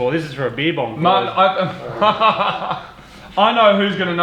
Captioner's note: laughs